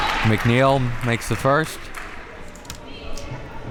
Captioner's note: crowd applauds